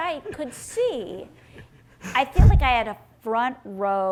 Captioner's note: laughing